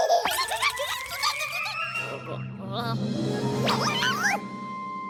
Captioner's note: baby laughing; squeaking